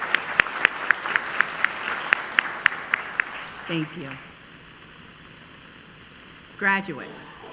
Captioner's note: applause